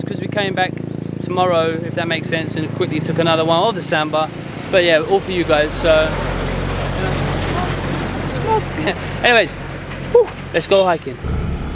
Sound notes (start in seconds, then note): 8.2 lorry engine; 11.1 motorbike engine